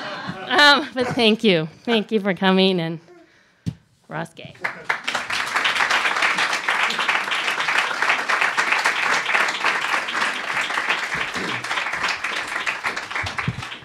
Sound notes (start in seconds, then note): 7.6 applause